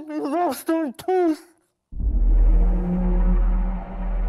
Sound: speaker muffled by deformed mouth; dramatic instrumental music

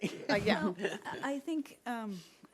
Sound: laughing

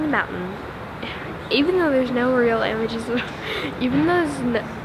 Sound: laughter

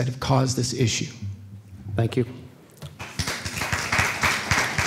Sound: applause

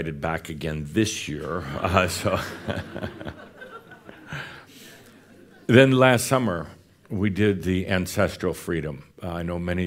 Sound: laughter

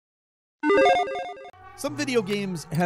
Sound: video game bling

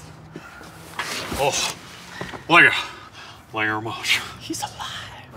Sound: clanks; Elvis impression

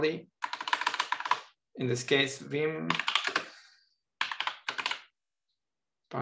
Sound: keyboard clattering

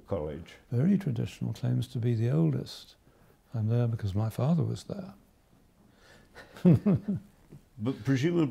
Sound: laughs

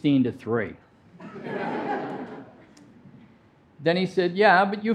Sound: audience laughing

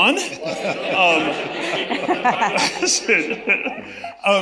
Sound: audience laughs

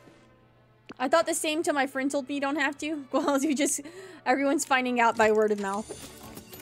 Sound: laughter

